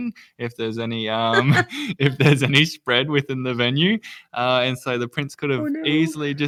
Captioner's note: laughs